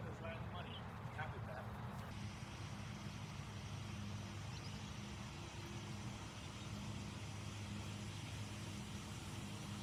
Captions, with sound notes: - Looks like it's right on the money. Happy with that. (machinery whirring) (birds chirping)